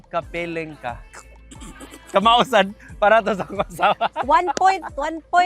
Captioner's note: snickers